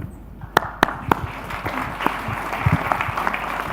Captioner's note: audience applauding